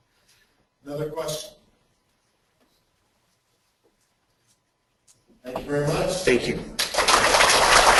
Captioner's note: clapping